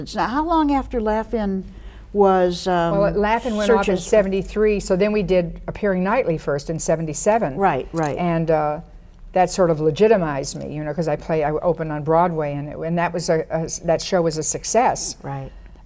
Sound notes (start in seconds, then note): none